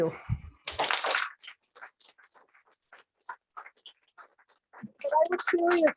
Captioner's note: applause